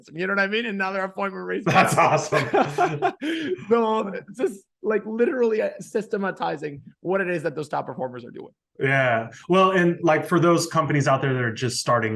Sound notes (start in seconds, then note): 1.7 laughing